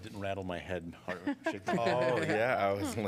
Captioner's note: laughter